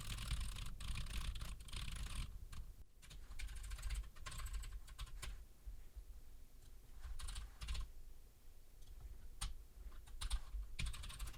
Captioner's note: typing sounds